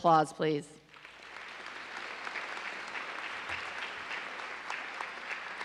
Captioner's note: audience applauding